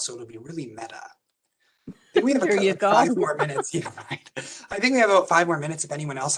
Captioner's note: laugh